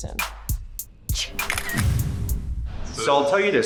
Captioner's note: camera shutter sound